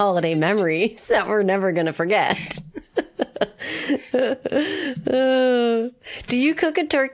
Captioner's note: laughs